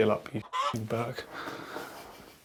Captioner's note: clucking